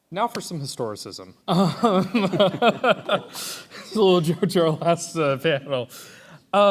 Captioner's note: laughs